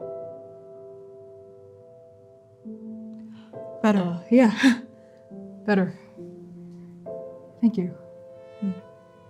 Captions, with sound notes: [inhaling] - [inhaling] Better. - Uh, yeah. Better. Thank you.